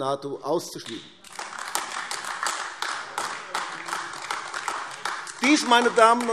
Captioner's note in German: Beifall AfD